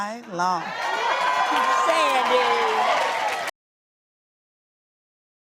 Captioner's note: clapping